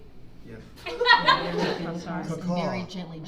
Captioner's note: audience laughing